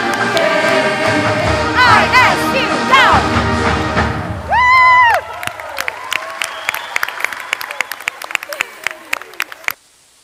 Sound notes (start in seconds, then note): 4.4 cheers; 4.4 crowd; 6.6 applause